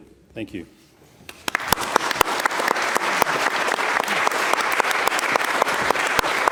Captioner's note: applause